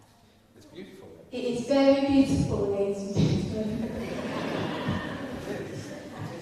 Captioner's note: laughter